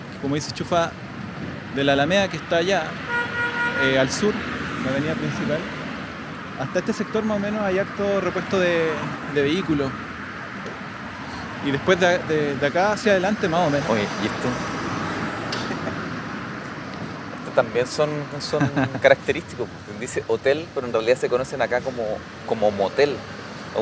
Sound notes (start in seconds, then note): 15.1 laughs